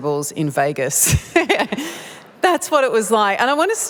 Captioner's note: laughter